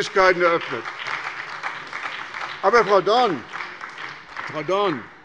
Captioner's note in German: Beifall bei der SPD